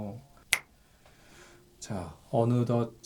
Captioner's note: snap!